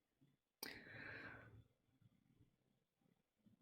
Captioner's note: intake of breath